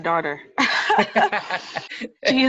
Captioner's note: both laugh